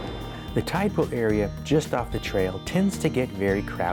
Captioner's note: voiceover